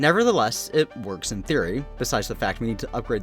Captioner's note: none